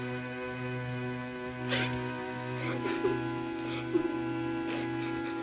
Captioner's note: heathcliff sobs